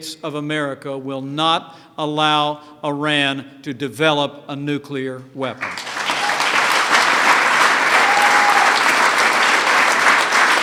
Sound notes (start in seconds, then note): 5.6 applause